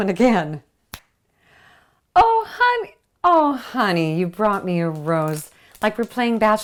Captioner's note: snap